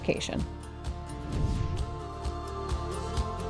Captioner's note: graphic whooshing; uplifting music